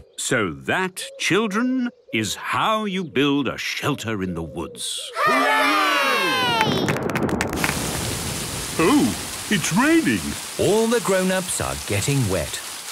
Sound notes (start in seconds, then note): 6.4 thunder